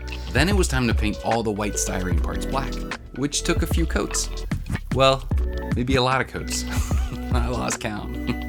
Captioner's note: ha ha